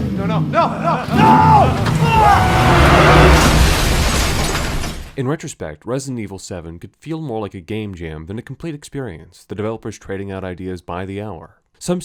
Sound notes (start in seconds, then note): 0.6 Jack laughs maniacally; 3.3 crash!